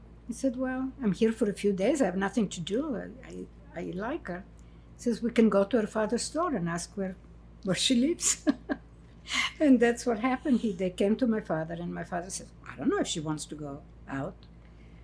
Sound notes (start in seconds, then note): 8.2 laughing